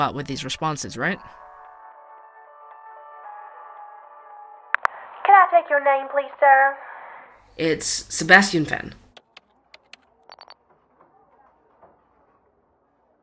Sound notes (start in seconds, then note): 3.1 sound: Call gets picked up again; 10.2 sound: typing, beeps